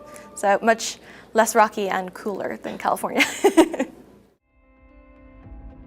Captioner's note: laughs; mid-tempo music